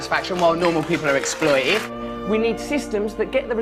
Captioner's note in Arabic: تصفيق